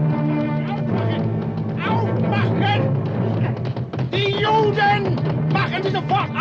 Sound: dramatic music; footsteps thudding; men shouting in German

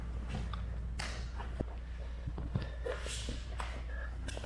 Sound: hand slapping

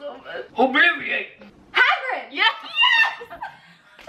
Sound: laughing; squeals yes

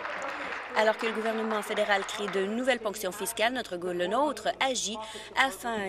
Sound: applause

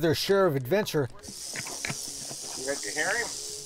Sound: rattling

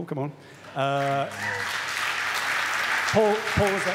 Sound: audience applaud

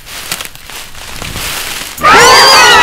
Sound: growls

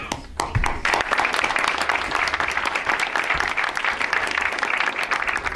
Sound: audience applauds

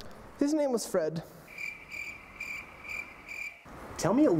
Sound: crickets chirping

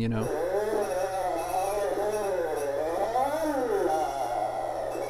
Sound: buzzing

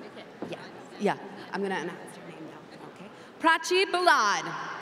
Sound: foreign language

